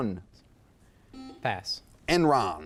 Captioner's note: buzzer chimes